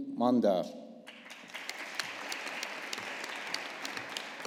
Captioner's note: audience applauding